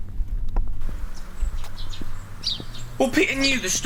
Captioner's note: birds chirping